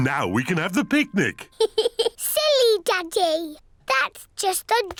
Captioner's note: giggles